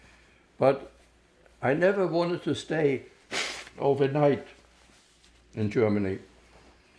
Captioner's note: wiping nose